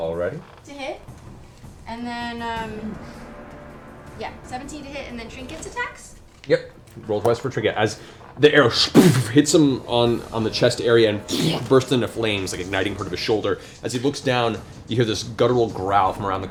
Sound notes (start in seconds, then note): 8.8 sploof; 11.1 boom